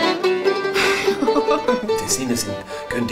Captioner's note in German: lacht